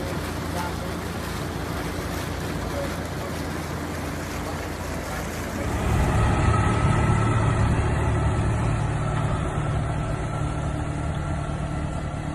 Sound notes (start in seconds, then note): 0.0 engine rumbling; 0.3 water splashing; 5.6 engine revving